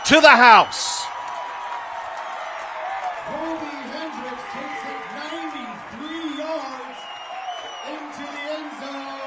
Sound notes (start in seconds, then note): 0.0 applause